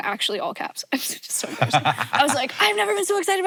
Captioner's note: Hank laughs